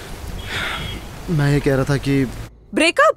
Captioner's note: Aniket exhales